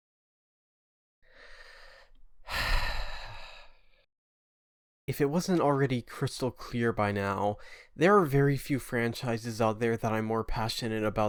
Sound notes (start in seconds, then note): 2.4 sigh